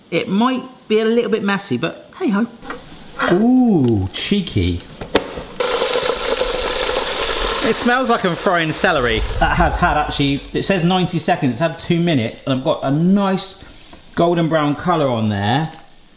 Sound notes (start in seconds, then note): 2.6 oil sizzles gently; 5.4 oil sizzling loudly